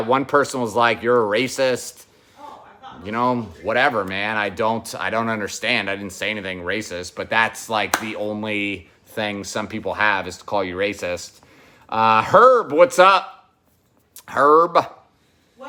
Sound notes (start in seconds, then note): 7.9 claps